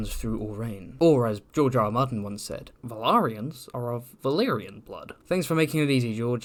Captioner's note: grrm impression